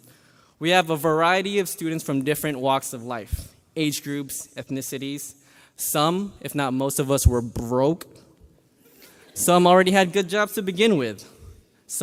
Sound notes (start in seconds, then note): none